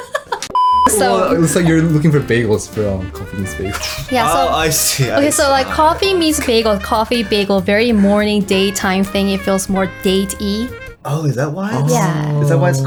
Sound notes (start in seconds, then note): 0.5 signal interruption; 0.9 everyone laughs